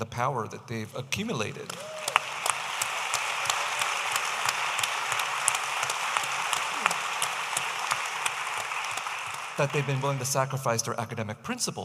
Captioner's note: audience applauding